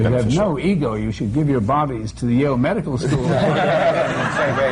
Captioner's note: laughter